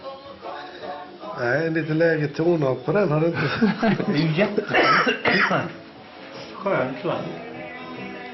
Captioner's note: cough